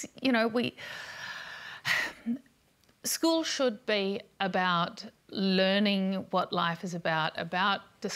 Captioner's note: sighs